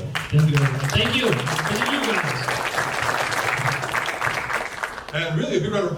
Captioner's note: audience claps